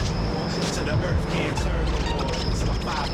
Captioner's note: tires screech